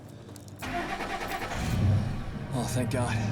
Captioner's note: engine starts